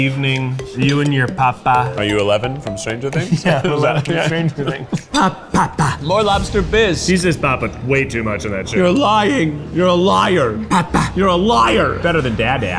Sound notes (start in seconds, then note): 3.0 laughs; 8.6 intense music